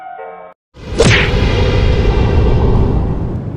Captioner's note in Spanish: Golpe Fuerte